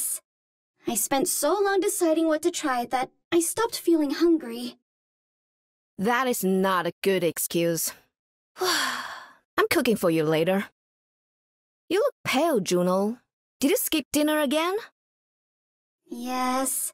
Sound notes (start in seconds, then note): 8.6 sigh